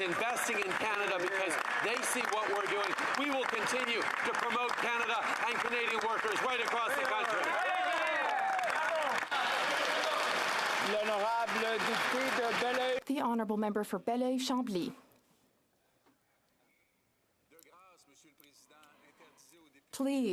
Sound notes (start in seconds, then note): 14.0 some Applause